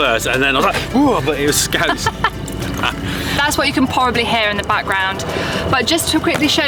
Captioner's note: laughing